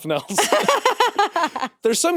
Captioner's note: Jacksepticeye chuckling; laughing